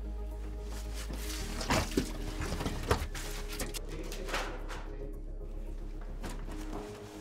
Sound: sloshing; clattering

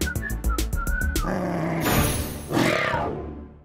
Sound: both growl

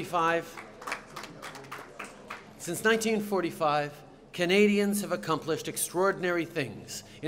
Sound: applause

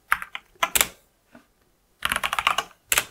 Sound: blank Audio

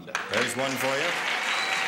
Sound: applauding

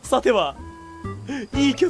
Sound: inhale

